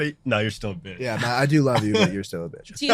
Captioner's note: laughing loudly